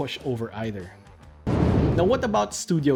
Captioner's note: air whooshing